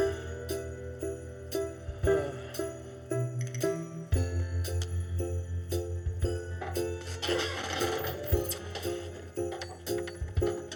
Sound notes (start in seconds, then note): 0.5 sighs; 7.0 chair creaks